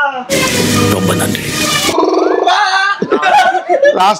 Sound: bleat

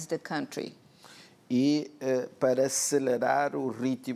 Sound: speaking portuguese

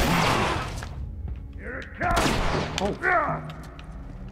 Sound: grunts

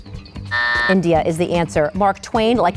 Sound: buzzer going off

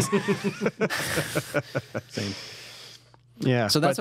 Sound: laughter

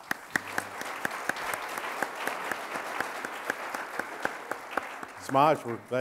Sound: audience applauding

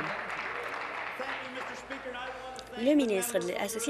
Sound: applause

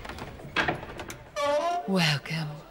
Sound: door Creaks Open

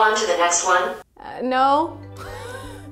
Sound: laughs

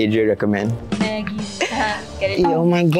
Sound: laughter?

